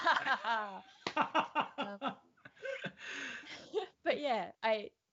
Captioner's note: both laugh out loud